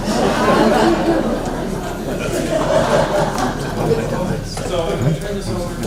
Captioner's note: laughter